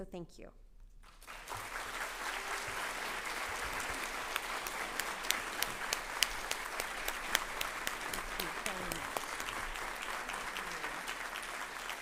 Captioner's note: applause